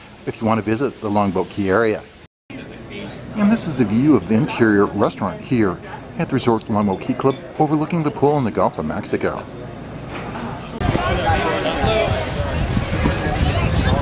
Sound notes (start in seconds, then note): 2.6 guests chattering; 10.9 crowd chattering